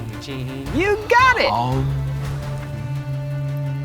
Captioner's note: humming; tense music